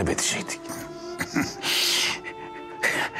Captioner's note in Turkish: Gülme sesi